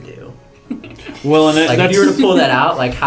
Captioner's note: laugh